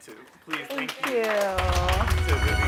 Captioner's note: applause